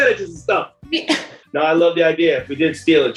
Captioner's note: laughs